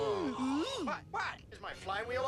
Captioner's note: gasps